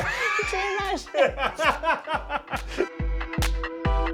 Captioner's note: laughs; upbeat music playing